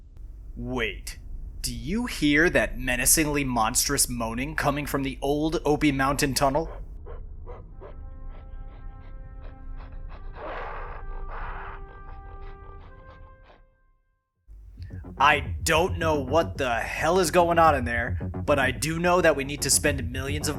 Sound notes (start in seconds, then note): 6.6 menacingly monstrous moaning